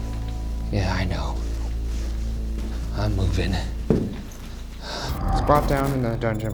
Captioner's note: exhales sharply